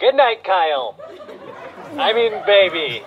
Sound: audience laughter

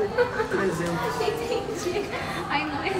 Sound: laughs

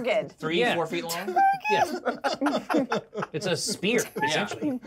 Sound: speaker laughs

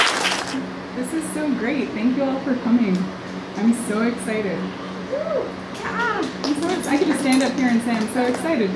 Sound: audience applause; woo

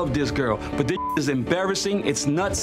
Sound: beep

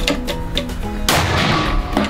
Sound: bam!!!

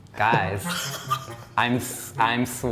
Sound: laughs loudly

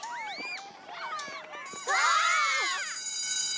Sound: school bell rings

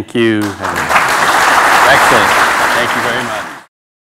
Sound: applause

